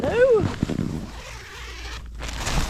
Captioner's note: zipper